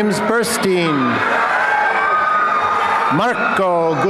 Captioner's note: applause and cheering